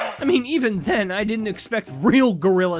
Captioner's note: none